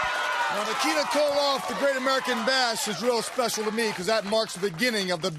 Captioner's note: crowd cheering